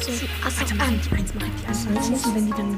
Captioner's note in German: Flüstern